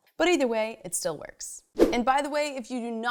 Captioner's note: fast whoosh